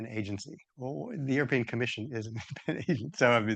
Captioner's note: laughs